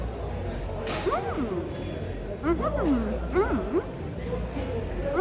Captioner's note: happy mouth noises